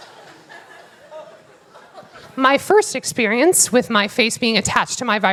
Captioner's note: laughter